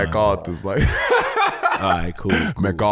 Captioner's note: laughing